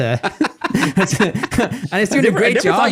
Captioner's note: laughing